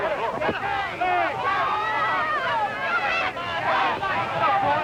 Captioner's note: crowd yelling